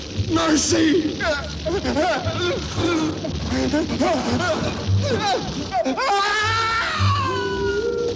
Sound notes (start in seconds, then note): 2.4 screaming